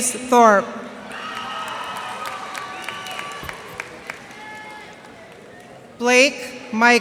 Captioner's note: cheers and applause